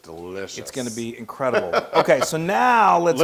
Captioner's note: laugh